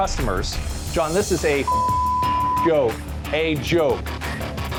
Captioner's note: beep